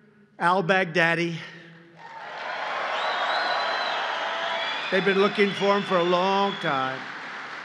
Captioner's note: applause